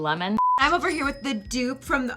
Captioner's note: beeping